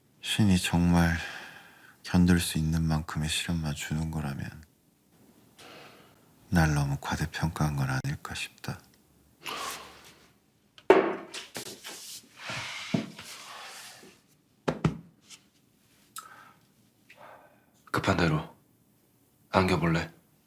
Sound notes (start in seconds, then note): 5.5 sigh; 9.5 sigh